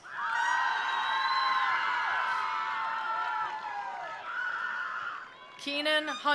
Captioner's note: attendees cheering; attendees applauding